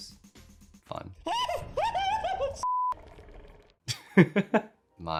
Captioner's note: gasping; laughing